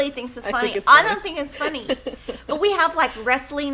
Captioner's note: laughs